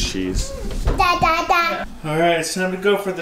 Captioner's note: Babbles